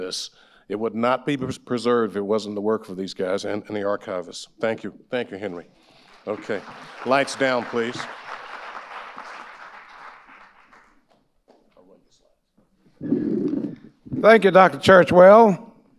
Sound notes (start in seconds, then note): 8.4 audience applauding; 12.9 microphone scrapes